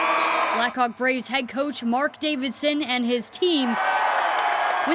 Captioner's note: horn sounds